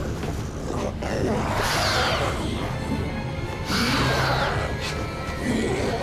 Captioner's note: creature screeches